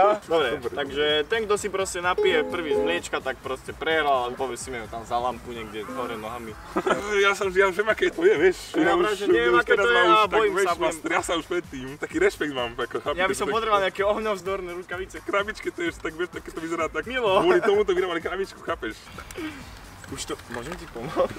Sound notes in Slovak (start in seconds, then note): 19.0 podivné zvuky prírody